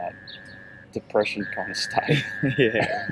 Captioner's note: laughs